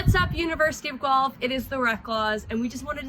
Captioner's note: speaks faintly